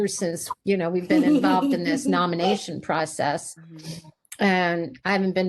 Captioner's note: laughter